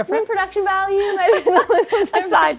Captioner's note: laughter